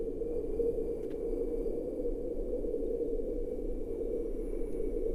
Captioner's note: wind whistling continues